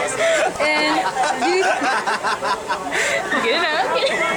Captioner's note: laughter